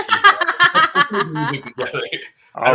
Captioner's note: laughter